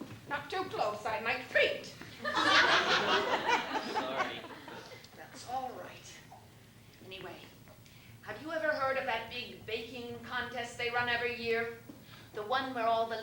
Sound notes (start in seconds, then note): 2.2 laughter